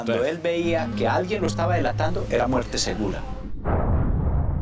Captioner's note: Spanish spoken audio